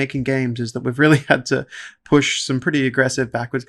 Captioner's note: laughs